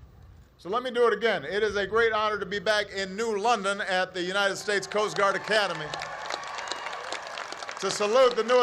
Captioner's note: applause